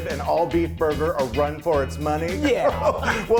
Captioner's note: laughs